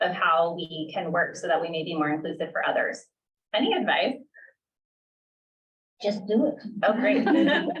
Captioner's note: laughter